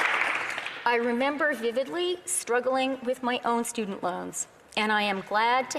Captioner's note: applause